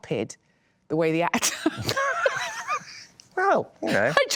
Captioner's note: laughing